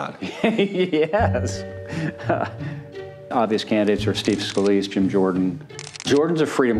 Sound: chuckles

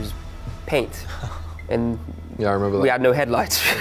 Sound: laughs

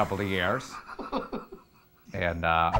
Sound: laughs

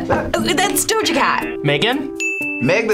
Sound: buzzer sounds; dinging sound

